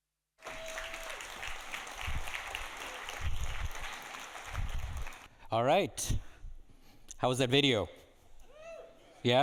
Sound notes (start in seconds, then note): 0.4 audience applauding